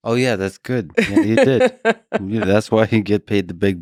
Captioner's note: Lisa laughs